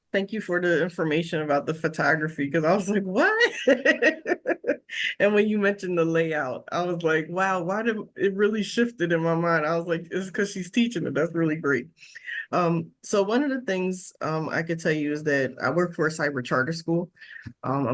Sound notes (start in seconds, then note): 3.5 laughs